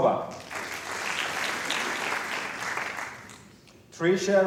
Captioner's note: applause